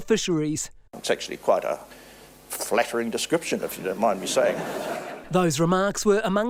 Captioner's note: crowd Laughs